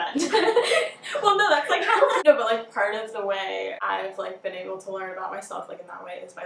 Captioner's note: laughing